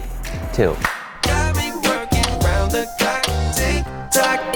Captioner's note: clock ticking